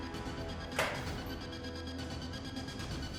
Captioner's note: door clicks open; music increases in intensity